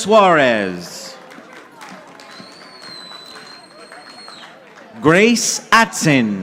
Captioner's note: audience applauding